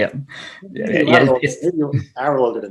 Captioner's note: indistinct chatter